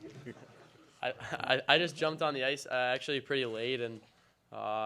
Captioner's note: laughter